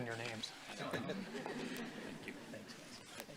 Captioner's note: doctors chuckling